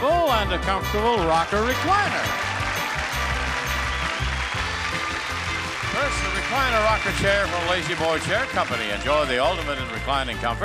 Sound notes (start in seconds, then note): 1.2 audience applauding